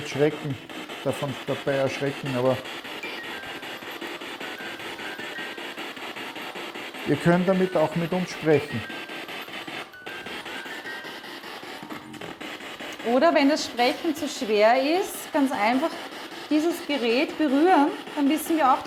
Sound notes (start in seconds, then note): 9.2 noise of the music box in the background; 11.2 noise of the spiritbox in the background